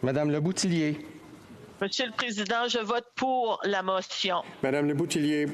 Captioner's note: speaking FRENCH